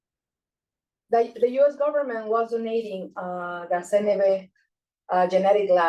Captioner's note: speaking Spanish